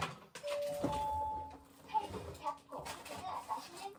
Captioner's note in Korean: 아침부터 요리하는 소리